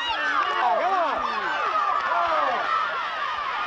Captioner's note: shouting